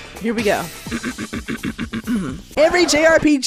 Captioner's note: clears throat